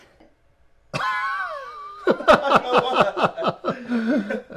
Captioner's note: all laughing